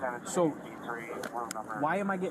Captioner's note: radio chatter